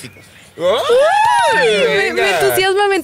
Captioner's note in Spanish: Gritos de emoción